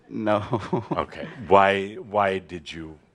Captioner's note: chucking